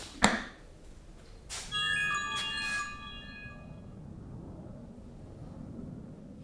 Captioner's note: smart notification chimes